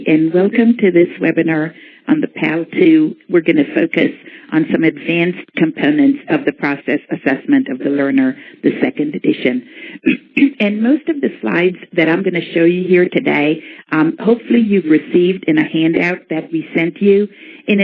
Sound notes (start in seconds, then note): 10.0 clears throat